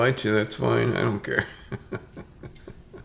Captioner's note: chuckles